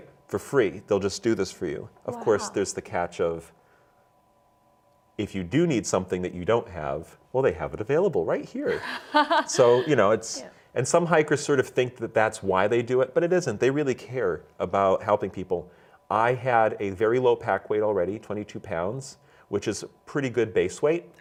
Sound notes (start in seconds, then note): 8.6 laughs